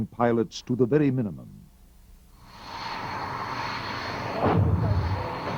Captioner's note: missile exploding